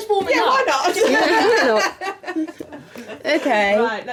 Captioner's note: laughing